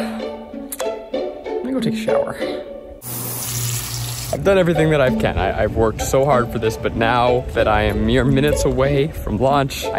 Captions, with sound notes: Let me go take a shower. (water running) I've done everything that I can. I've worked so hard for this, but now that I am mere minutes away from launch,